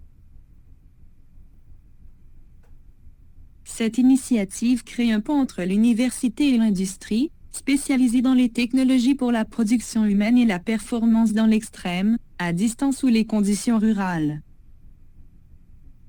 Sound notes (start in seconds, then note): 2.5 computer voice